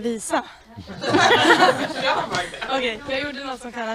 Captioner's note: everyone laughs